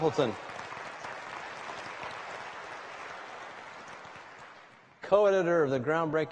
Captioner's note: applause